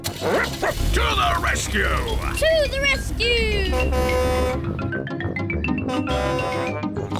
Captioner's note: snorts